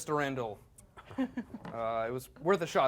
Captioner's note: laughing